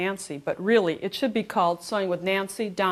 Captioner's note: none